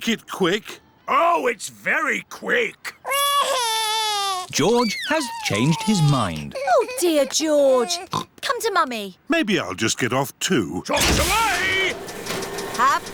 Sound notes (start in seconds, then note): 3.0 crying; 8.0 oinks